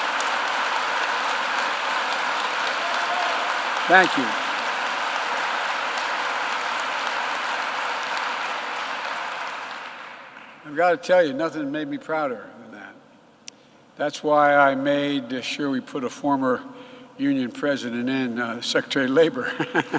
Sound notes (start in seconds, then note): 0.0 applause; 10.5 applause